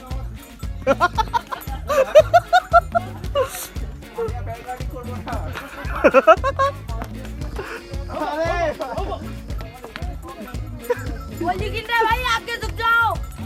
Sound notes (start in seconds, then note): 0.0 laughs